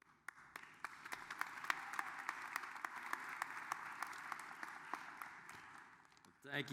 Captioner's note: applause